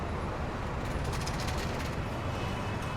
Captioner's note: none